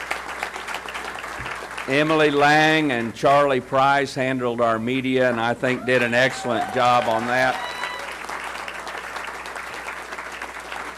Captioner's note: applause